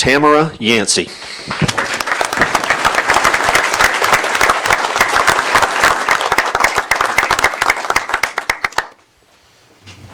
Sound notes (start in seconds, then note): 4.1 applause